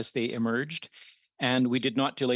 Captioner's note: speaking French